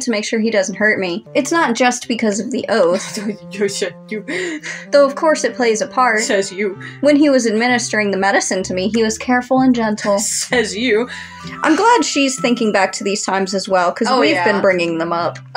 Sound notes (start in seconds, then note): 10.2 scoff